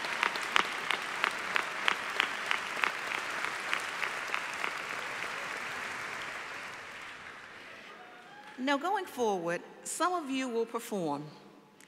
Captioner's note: applause